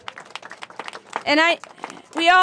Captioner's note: applause